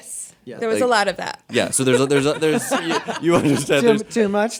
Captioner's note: laughter